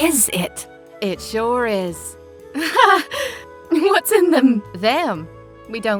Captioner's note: laughs nervously